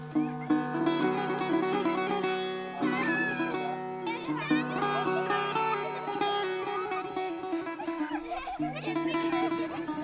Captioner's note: sounds and laughter of the playing children